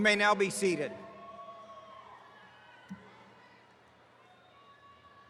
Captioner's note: attendees cheering